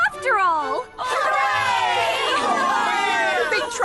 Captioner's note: cheering